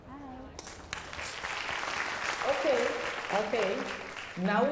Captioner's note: applause